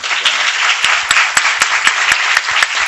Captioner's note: applause